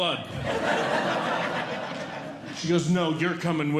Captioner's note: audience Laughing